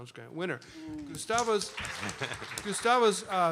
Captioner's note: applause